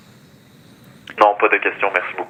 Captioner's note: speaking French